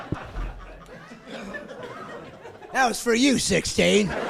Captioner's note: laughing